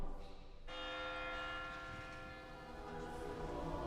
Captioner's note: church bell tolling